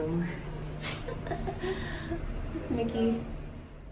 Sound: giggles softly

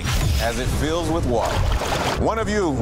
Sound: water gurgling

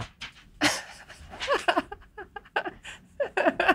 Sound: laughs

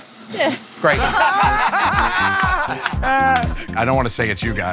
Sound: laughter

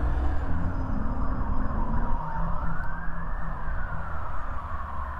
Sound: sirens

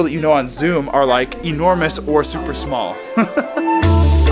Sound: laughs; cheerful music

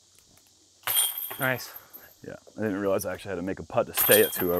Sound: none

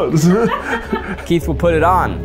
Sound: people laughing

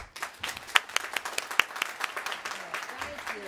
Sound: applause

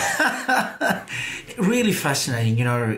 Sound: laughs gently

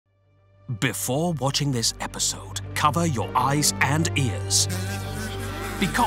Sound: dramatic Voiceover; kazoo Noises

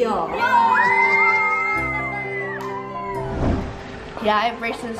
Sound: kids cheering

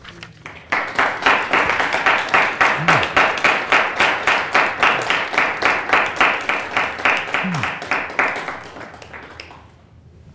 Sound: applause

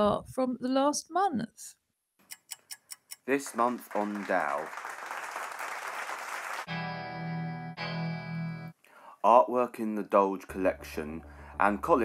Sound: applause

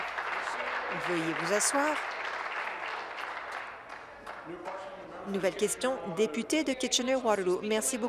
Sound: applause

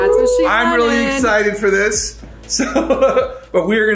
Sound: laughs

